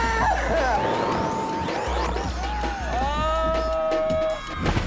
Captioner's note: shouting excitedly